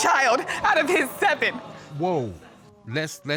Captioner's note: audience exclaims